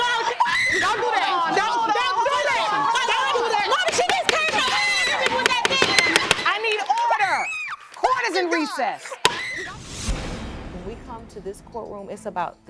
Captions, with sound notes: Don't do that. Don't do that! You can't do that! Momma, she just can't... (GAVEL BANGING) I need order! Court is in recess. When we come to this courtroom, it's about the children.